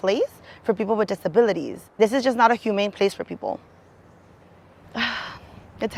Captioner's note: sighs